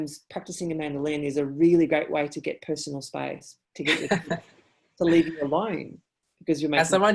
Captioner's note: laughs